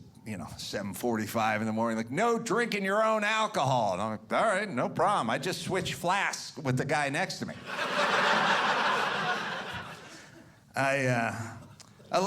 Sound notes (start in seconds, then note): 7.6 audience laughing